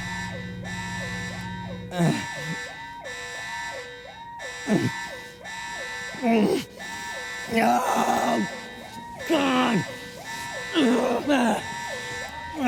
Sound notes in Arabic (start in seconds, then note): 1.8 آهات; 7.5 آهات ثم صراخ; 9.0 يستمر الأنين